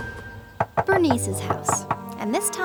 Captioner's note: door knocking